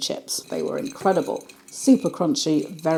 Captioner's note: crispyy rustling